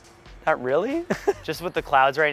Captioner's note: giggling